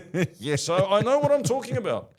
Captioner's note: laughing